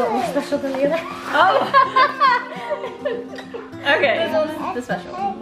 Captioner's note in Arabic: يضحك